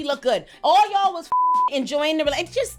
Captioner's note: beep